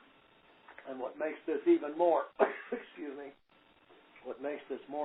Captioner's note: coughs